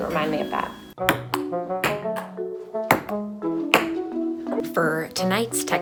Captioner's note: ping-pong ball